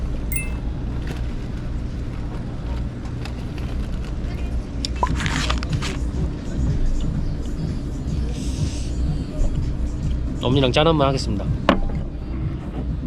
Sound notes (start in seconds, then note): 4.9 munching on snacks too